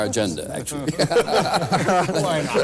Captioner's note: laughter